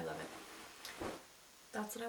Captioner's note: jumpsuit plops lightly